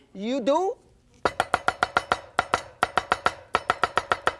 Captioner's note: knife chops fast